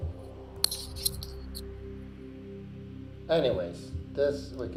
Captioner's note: microphone rustling